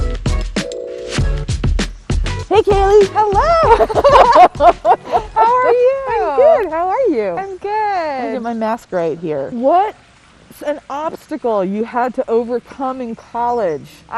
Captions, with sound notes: — Hey Kaley. — Hello. (both laugh) — How are you? — I'm good, how are you? I'm good. Let me get my mask right here. — What’s an obstacle you had to overcome in college?